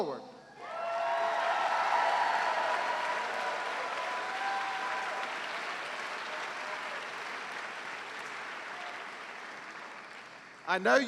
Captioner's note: cheers and applause